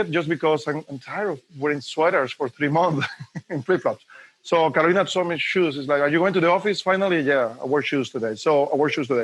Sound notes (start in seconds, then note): 2.9 laughs